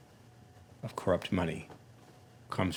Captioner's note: none